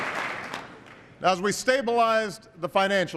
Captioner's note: applause